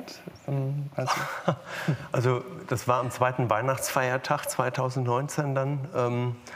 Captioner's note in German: lacht